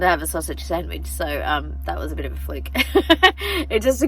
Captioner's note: laughs